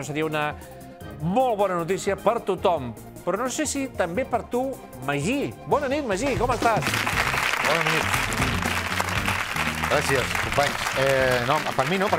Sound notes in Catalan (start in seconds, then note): 8.8 aplaudiments